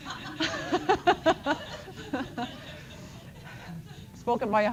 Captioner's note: laughter